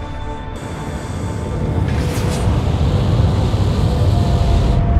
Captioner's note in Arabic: أصوات طنين فك الارتباط